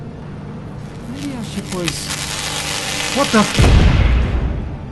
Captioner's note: sounds of electrical charge building up